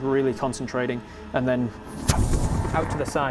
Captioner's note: pwoof